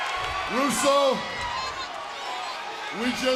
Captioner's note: crowd cheering